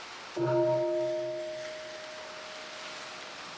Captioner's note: bell ringing